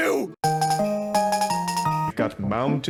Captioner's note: electronic beeping